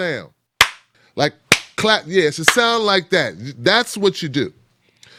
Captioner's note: hands clap